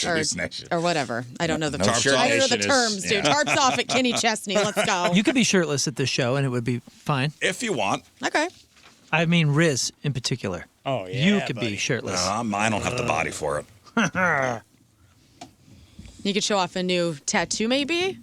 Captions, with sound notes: No shirts, or whatever. I don't know the terms. No shirt nation is, yeah. Tarts off at Kenny Chestny, let's go. You could be shirtless at the show and it would be fine. If you want. Okay. I mean Riz in particular. Oh yeah buddy. You could be shirtless. I don't have the body for it. (laughing) You could show off a new tattoo maybe?